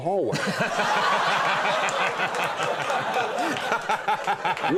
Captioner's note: audience laughs